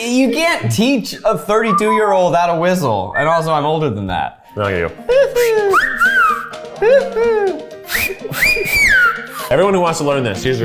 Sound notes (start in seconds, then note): 7.7 whistles